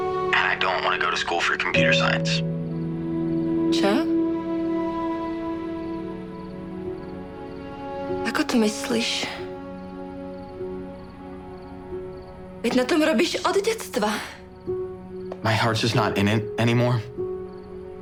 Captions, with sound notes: and I don't wanna go to school for computer science. sure? (Speaks Czech) What do you mean? (Speaks Czech) You’ve been working towards this since you were a kid! My heart’s just not in it anymore.